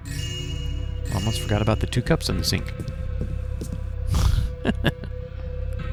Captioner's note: laughs